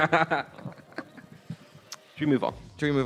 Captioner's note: laughs